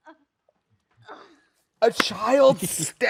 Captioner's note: Anna grunts